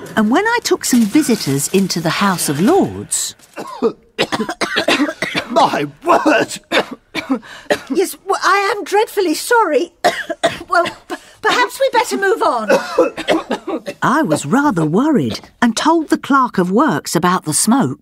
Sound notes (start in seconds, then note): 3.5 coughs; 9.0 cough; 12.4 coughs as they retreat